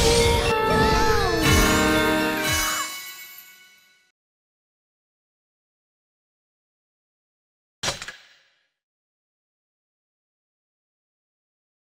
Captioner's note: bloodcurdling scream